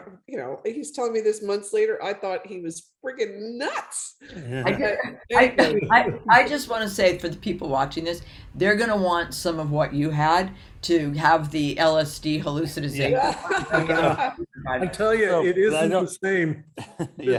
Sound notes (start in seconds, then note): 13.1 all laughing